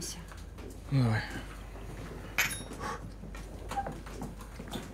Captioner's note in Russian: чокаются